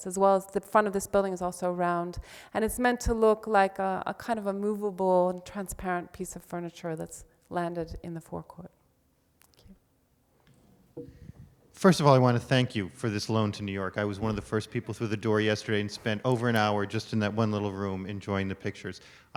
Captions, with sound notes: as well as the front of this building is also round, and it's meant to look like kind of a movable and transparent piece of furniture that's landed in the forecourt. Thank you. - [Voiceover] First of all, I wanna thank you for this loan to New York. I was one of the first people through the door yesterday and spent over an hour just in that one little room enjoying the pictures.